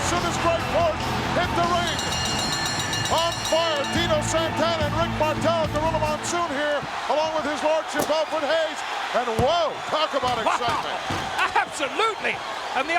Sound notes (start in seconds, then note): 1.7 bell ringing; 10.9 chuckling